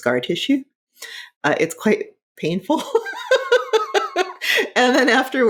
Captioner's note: laughing